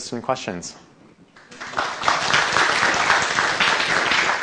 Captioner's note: applause